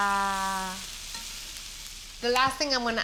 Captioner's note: sizzling